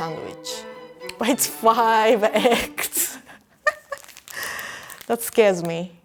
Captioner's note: laughs